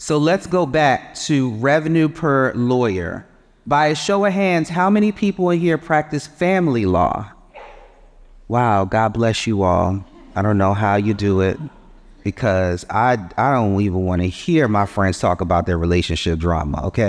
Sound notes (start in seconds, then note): 10.0 audience chuckling